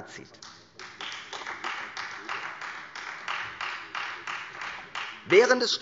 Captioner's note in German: Beifall Freie Demokraten